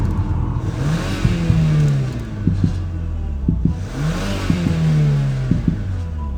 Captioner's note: intense music; heart beating and car engine revving